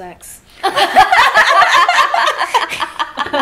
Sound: all laughing

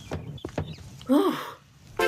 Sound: sighs in relief

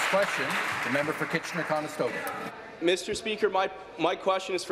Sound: applause

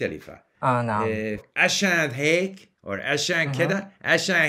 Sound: levantine dialect; egyptian dialect; levantine dialect

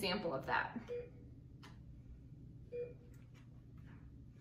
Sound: beeping

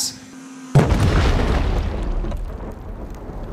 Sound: explosion

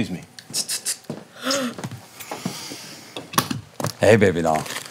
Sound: air hissing

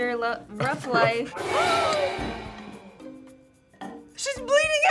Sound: tense music; gasps

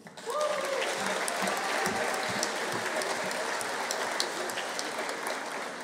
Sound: audience applauding; audience cheering

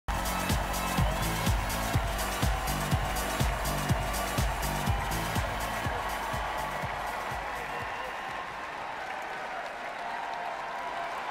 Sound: applause and music

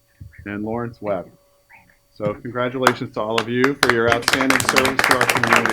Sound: applause

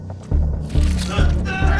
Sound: shouting

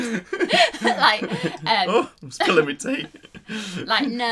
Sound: laughs

